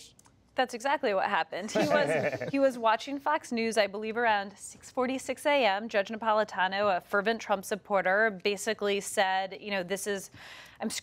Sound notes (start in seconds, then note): 1.6 laughter